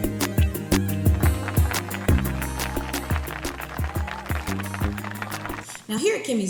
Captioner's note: audience claps and cheers